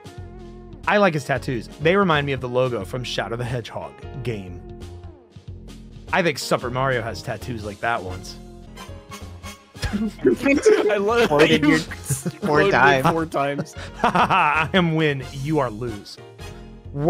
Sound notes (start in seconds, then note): 9.8 laughter